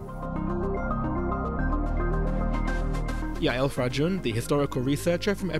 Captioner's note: voiceover